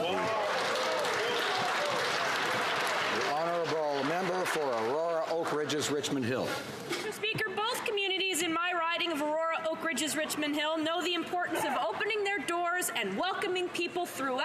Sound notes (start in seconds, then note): 3.6 some Applause